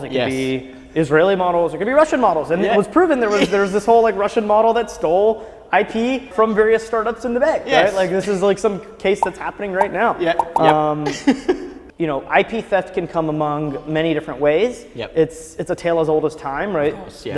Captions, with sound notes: It could be Israeli models. It could be Russian models. And it was proven! There was this whole, like, Russian model that stole IP from various startups in the bank. - Yes! - Right? Like this is like some case that's happening right now. - Yeah. Yeah. (Laughs) - You know, IP theft can come among many different ways. - Yep. It's a tale as old as time, right?